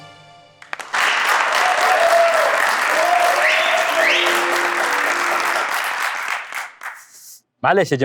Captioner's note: clapping